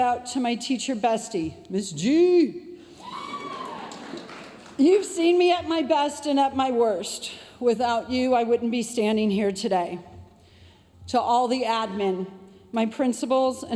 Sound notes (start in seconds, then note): 3.2 audience applauding